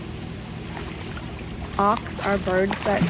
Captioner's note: water splashes